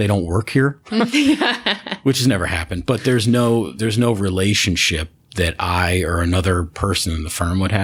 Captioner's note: laughter